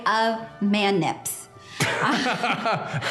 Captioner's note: both laugh